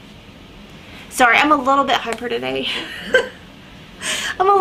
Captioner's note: laughs